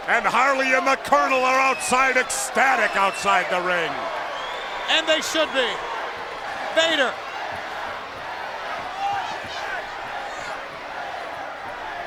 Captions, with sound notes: And Harley and the Colonel are outside, ecstatic outside the ring. And they should be. Vader. (crowd chants "Vader")